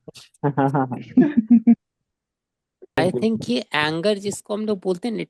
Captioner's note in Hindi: हंसी